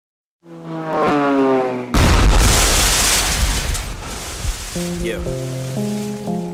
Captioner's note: plane Crash